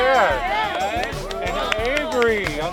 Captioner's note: cheering